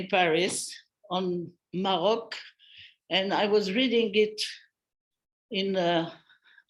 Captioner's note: non-english speech